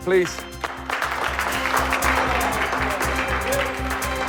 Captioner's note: applause